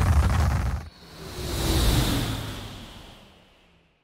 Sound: windy sound of the rocketship taking off

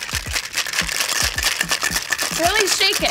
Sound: ice shaking

